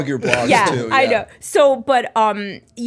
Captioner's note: laughter